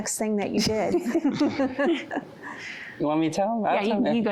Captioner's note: laughing